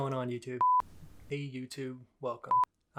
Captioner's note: beeping